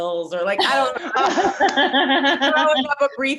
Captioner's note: all laughing